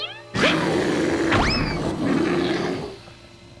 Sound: bear growling

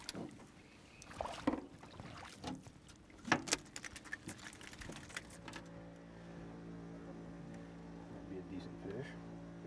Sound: fish splashing

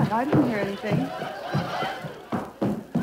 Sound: stomping

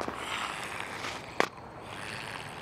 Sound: snarling

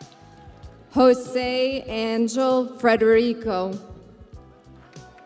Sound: crowd cheering

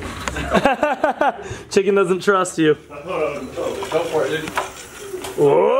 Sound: laughs

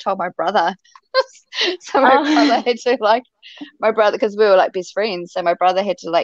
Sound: chuckle

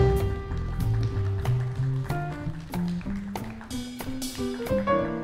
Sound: audience clapping

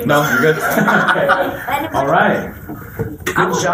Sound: laughter

